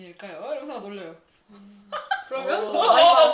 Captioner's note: laughs